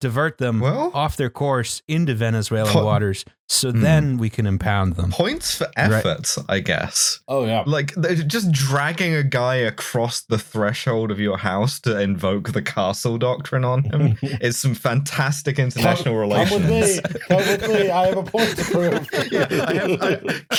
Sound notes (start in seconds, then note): 13.9 chuckles softly; 19.9 laughter